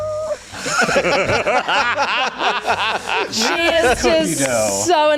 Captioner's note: everyone laughs